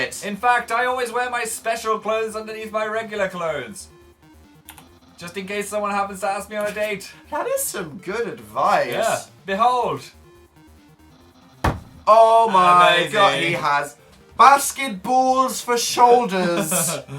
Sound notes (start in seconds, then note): 11.6 slams table; 16.4 laughs